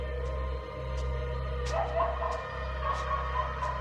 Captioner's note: dog barking